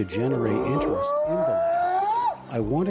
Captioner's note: bigfoot whooping